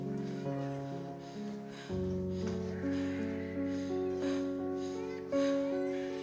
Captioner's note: Abby pants; baby cries